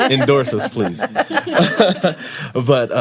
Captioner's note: laughter